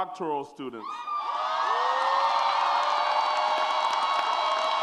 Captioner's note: audience cheers